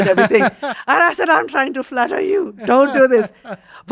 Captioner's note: laughs